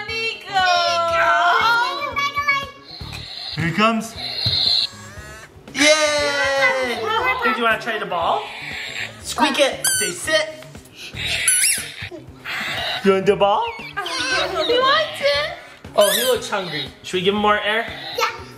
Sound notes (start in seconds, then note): 5.0 balloon inflating; 10.4 balloon squeaks